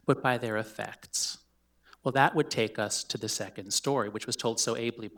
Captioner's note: none